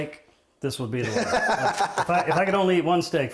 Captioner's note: laughing